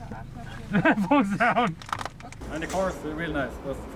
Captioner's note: laughs